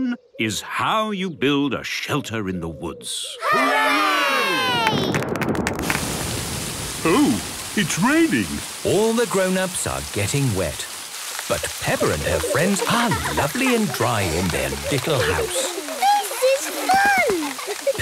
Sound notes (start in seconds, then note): 5.0 thunder; 17.2 laughter